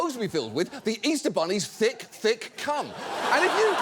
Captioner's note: audience laughs